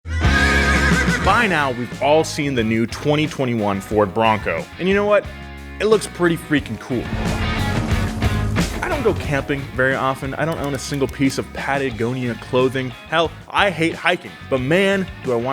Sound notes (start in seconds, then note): 0.0 horse whinnies; 7.2 easygoing rock music